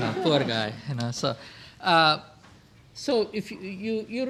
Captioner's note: audience laughs